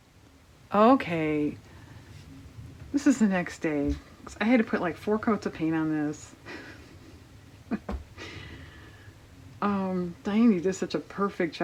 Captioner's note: laughs